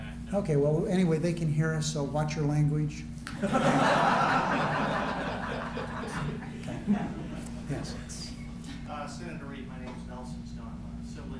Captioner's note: laughter